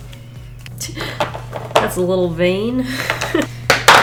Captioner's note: chuckles